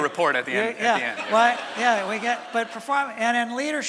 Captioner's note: laughter from audience